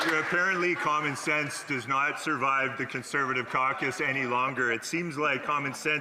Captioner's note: applause